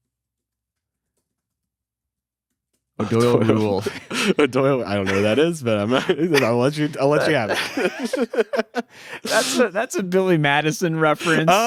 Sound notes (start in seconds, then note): 4.0 laughs; 7.7 both laughing